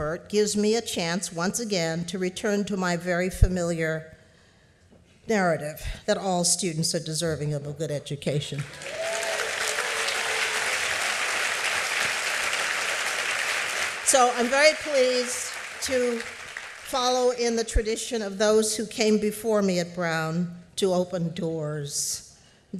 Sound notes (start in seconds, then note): 8.6 applause